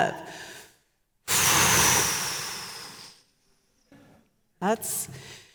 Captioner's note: exhaling